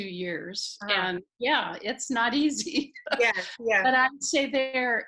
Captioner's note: laughing